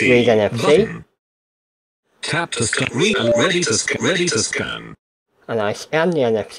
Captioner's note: computer voice